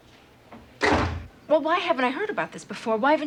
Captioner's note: door closes